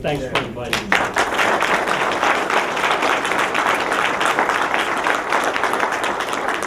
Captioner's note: applause